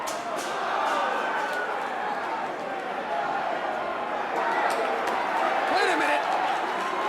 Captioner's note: crowd cheering